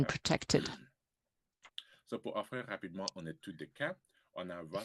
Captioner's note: speaking french